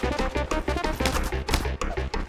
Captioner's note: slap, slap